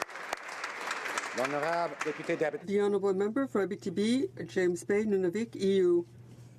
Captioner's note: applause